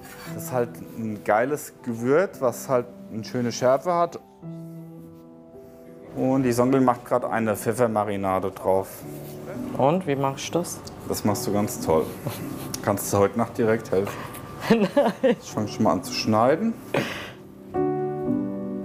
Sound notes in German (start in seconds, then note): 14.7 lachend